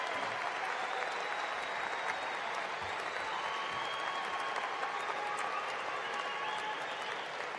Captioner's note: cheering and applause